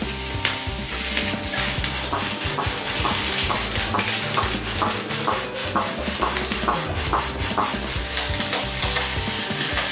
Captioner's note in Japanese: 風船が膨らむ音; 風船が膨らむ音